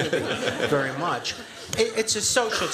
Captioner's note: laughter